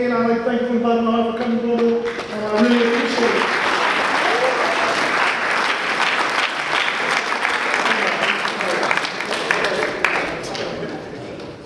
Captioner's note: audience applause